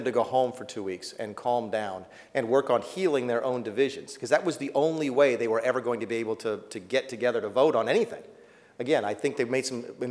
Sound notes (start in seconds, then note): none